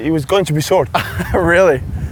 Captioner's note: laughs